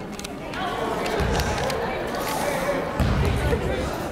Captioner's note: chattering